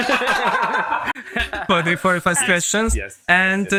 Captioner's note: laughs